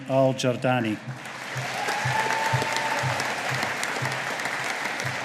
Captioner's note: audience applauding